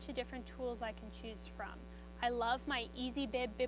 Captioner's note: none